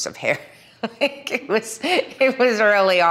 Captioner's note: Milla laughing nostalgically